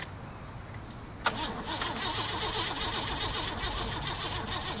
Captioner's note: car stalls